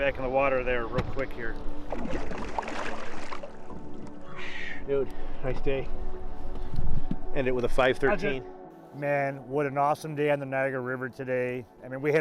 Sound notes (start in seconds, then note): 1.8 fish splashing